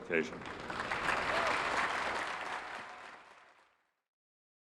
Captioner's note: crowd applauds